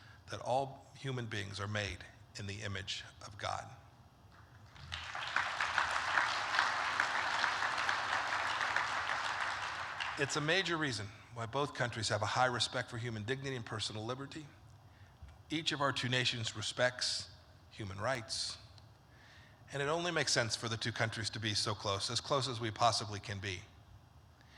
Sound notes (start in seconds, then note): 4.6 applause